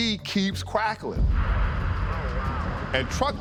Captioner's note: radio crackling